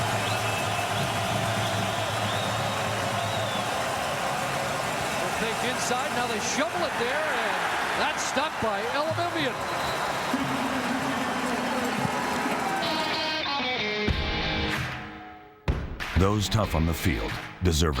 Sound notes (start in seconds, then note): 3.9 crowd Noise